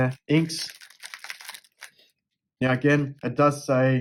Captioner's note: cartridges being shaken